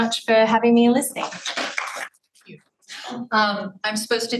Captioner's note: audience applauding